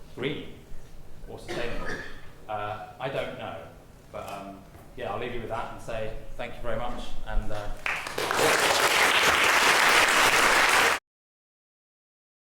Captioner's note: applause